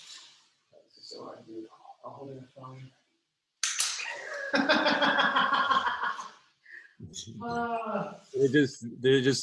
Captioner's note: laughing